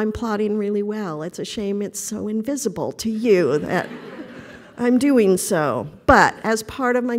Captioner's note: laughter